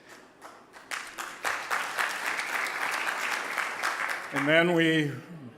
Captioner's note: audience applauding